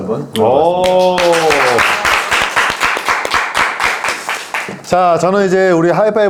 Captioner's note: applause